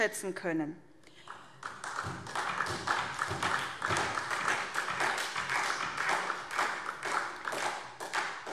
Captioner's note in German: Beifall